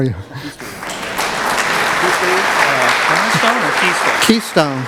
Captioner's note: applause